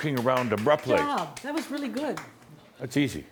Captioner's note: applauding